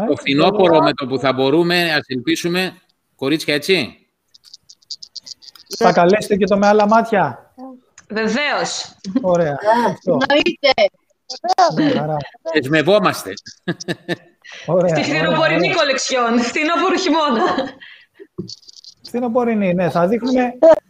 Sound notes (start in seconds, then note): 13.4 Γέλια; 17.2 γέλια